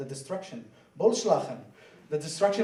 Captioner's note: swears in foreign language